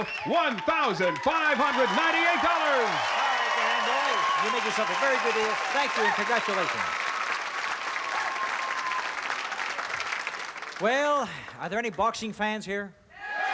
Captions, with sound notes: $1,598. - All right, Dan, boy, you made yourself a very good deal. Thank you and congratulations. [APPLAUSE] Well, are there any boxing fans here?